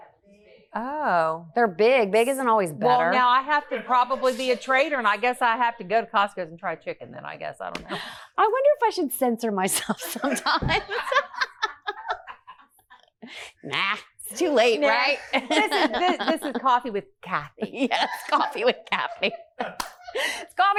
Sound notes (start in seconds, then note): 14.3 laughs